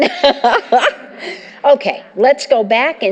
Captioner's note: laughter